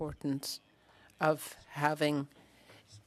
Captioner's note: speaking French